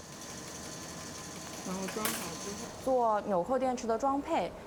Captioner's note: speaking chinese